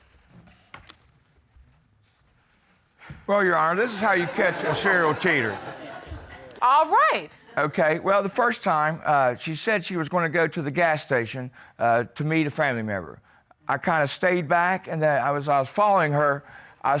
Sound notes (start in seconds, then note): 5.9 crowd laughs